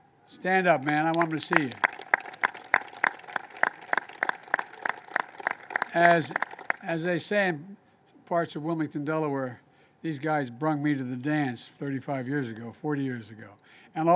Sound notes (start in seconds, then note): 2.2 applause